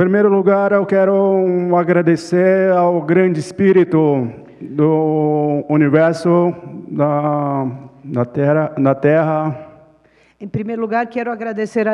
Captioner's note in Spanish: Ponente habla en portugués